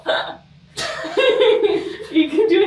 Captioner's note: both laughing